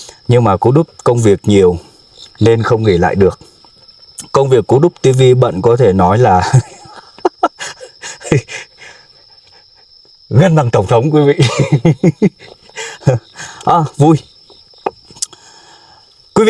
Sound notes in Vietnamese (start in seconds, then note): 6.4 tiếng cười; 7.6 thở hổn hển; 11.3 tiếng cười